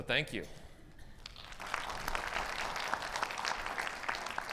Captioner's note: audience applauds